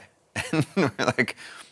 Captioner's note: laughs